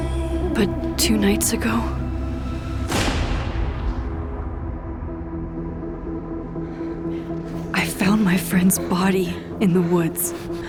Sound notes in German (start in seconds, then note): 2.9 Schuss fällt